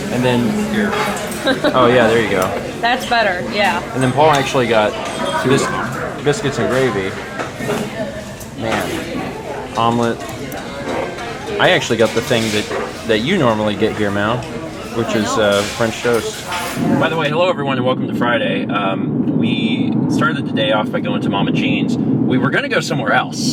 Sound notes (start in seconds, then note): 0.1 chuckles